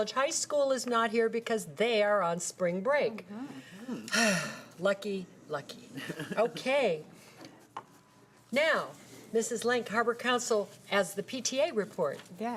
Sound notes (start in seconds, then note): 3.4 sighing